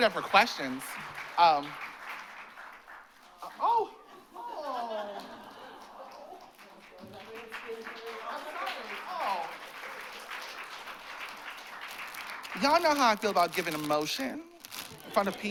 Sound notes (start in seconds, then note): 7.6 applause